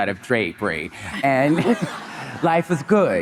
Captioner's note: Monica and audience laughing